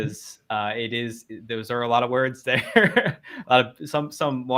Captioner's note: chuckles